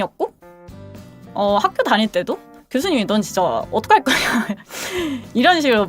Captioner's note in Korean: 웃음